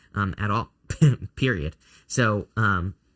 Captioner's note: laughs